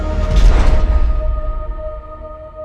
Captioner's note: none